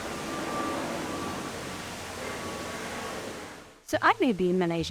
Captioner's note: plane engine roaring